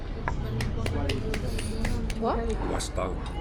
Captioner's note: sudden applause